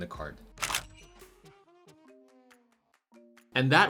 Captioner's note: camera clicks